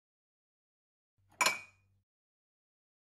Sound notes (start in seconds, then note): 1.4 sound of glass